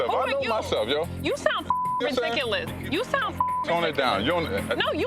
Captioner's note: beep